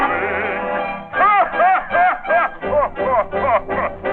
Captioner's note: evil laughter